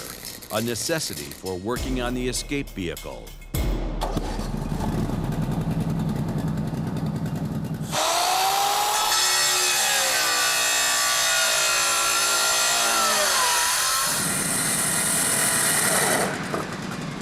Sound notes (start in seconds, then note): 4.0 engine turns over; 8.1 saw buzzing